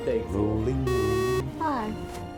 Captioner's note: beeping sound